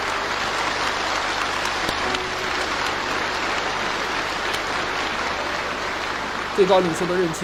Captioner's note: applause